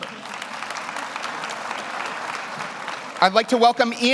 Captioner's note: audience applauds